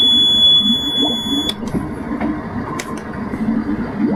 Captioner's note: power off